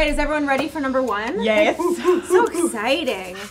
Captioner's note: cheering